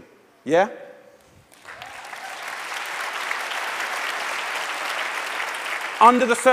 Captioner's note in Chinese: 掌聲